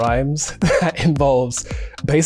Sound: Rege-Jean chuckles

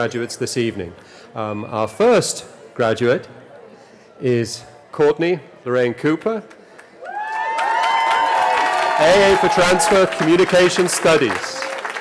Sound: cheering

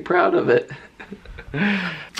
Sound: chuckling

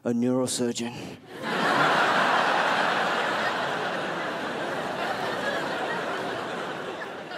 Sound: crowd laughs

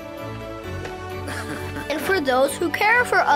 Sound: man chuckles

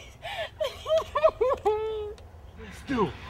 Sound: crying

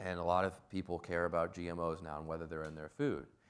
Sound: none

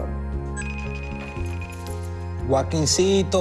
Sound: phone rings; speaking spanish

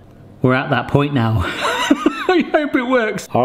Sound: laughs

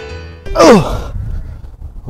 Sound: grunt

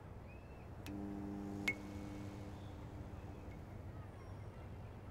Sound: electricity buzzing

